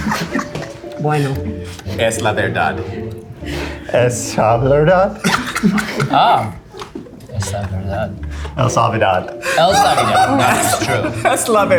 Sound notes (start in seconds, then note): 2.1 speaks in Spanish; 8.8 speaks in Spanish